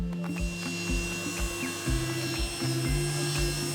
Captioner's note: bright upbeat music; saw buzzing